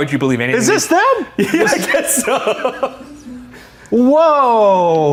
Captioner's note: laughs